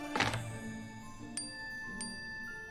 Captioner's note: cellphone chimes